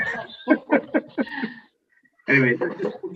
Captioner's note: committee laughs